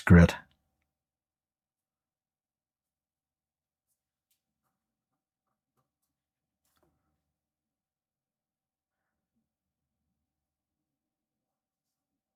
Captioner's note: silence